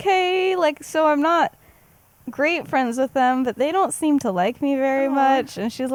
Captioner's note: awh